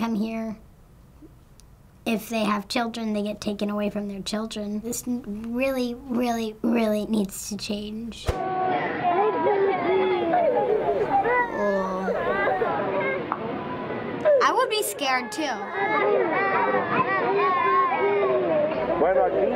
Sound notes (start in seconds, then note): 8.5 children crying; 15.6 children sobbing; 19.4 adult speaking in Spanish